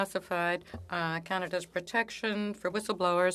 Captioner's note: speaking French